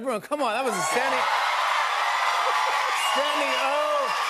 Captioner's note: cheers